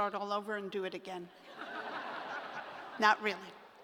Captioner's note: laughter